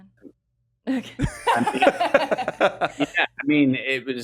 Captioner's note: laughs